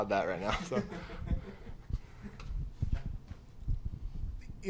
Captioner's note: laughter